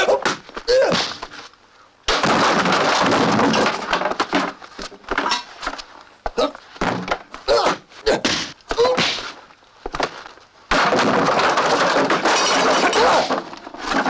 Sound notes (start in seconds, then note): 2.3 clatter; 6.3 grunting; 10.8 clatter